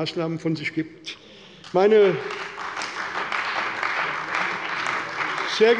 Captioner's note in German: Beifall bei der CDU und dem BÜNDNIS 90/DIE GRÜNEN